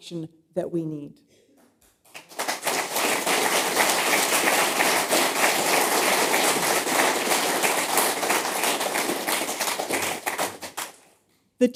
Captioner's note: applause